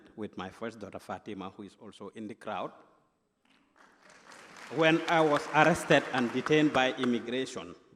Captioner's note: applause